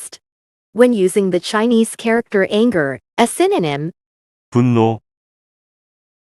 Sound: 분노

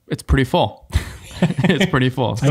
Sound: group laughing

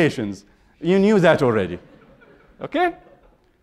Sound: laughter

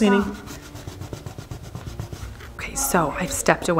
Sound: scrubbing

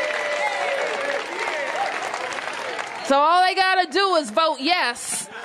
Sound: applause

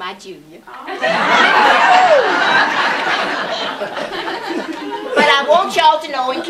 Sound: laughter

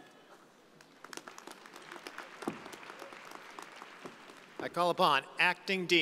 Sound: audience applauding

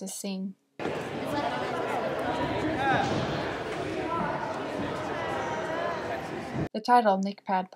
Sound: sound of crowd

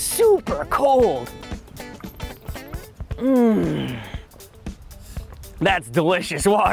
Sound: takes a sip

